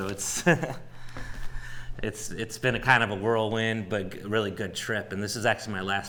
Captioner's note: chuckles